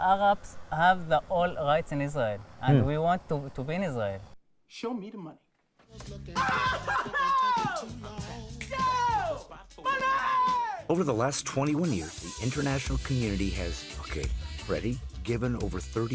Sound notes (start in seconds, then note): 6.4 laughter; 8.3 shouting